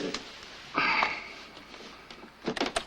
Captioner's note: sigh